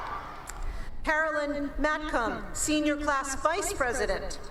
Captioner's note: cheering